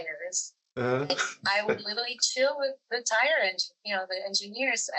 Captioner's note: laughs